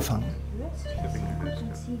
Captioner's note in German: Piepen